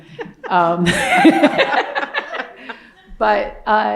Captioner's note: laughter